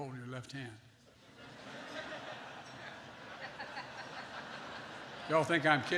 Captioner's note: laughter